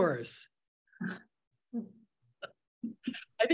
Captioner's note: chuckles